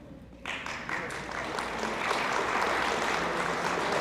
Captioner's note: audience applauds